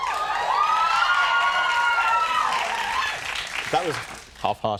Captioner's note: audience screaming